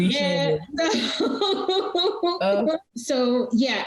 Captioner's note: laughing